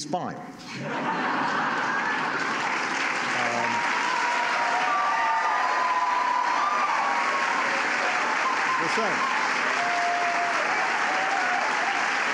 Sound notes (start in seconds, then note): 0.7 laughter and applause